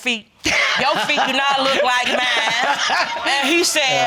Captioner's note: laughing